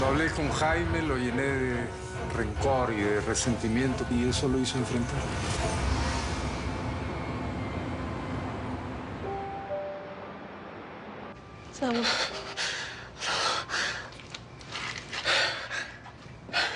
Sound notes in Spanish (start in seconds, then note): 12.8 El solloza; 15.2 Exhala y luego jadea